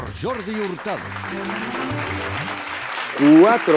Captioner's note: applause